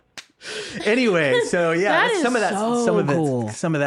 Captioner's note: laughing